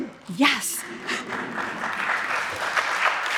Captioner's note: audience applauds; chuckles